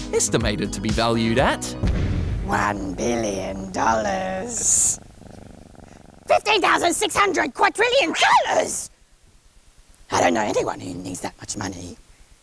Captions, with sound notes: estimated to be valued at... $1 billion! (CAT PURRS) $15,600 quadrillion! I don't know anyone who needs that much money.